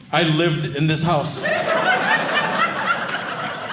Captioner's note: audience laughing